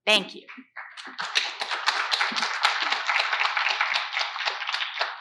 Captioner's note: audience applauds